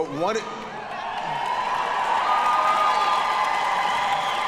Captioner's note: audience cheering